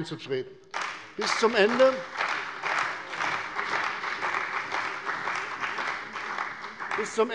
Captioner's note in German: Beifall bei der CDU und dem BÜNDNIS 90/DIE GRÜNEN